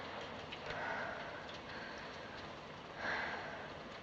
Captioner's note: katie breathing heavily